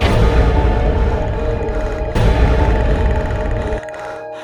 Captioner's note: normal bird noises